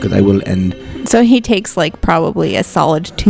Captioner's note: magical sound effects